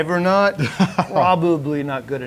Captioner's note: laughing